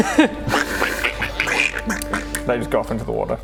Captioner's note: quack quack; quack quack quack